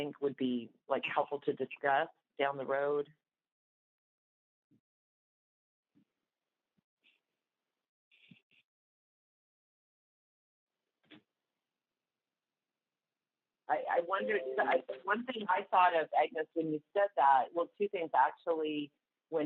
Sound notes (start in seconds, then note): 8.1 silence